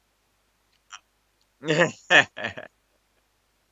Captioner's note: laugh